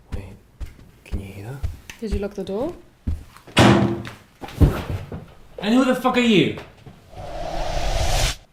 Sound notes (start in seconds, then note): 0.0 footsteps approaching; 3.5 door opens